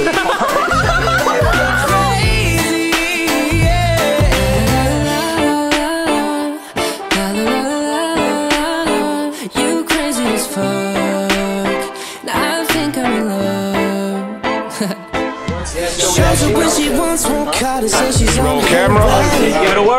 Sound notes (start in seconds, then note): 15.9 chattering